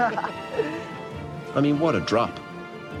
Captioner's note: laughs; voice-over